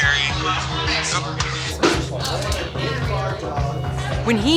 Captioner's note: chatter